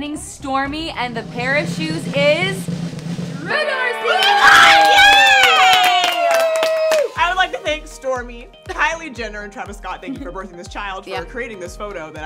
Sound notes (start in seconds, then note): 2.0 drum rolls; 3.8 girls clapping and cheering